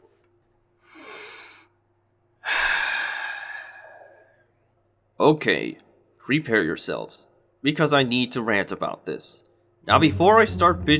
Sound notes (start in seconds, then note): 2.4 breathes